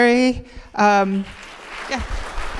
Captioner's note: audience applauding